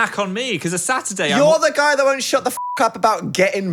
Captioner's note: beep